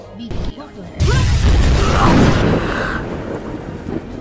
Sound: Shards screams and dies in the explosion

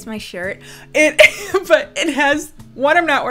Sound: laughs

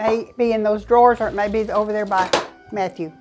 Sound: drawers opening

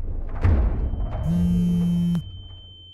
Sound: phone Vibrating

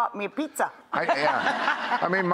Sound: laughing

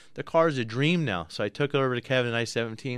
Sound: none

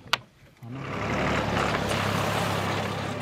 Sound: tractor humming

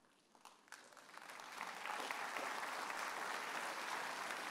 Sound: audience applauds

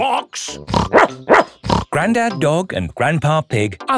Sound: snorts; barks

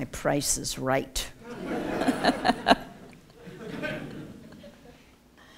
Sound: laughter

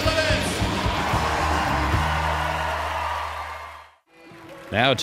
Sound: audience cheering

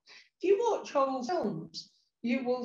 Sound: sound distorts

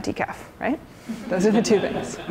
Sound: laughter

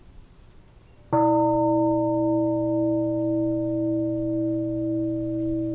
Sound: bell

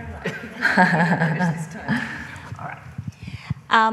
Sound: laughing

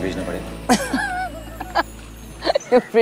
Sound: Sheena laughs

